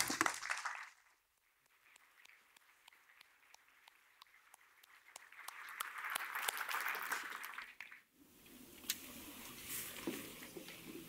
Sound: applause

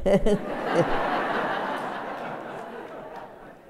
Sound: laughter

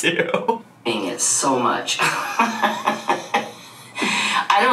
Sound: laughs

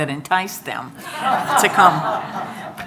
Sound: audience laughing

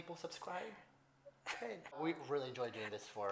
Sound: laughs

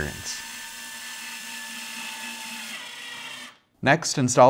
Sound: screwdriver whirrs

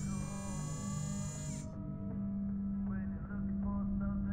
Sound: camera buzzes

